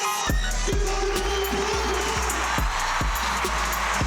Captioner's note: crowd cheering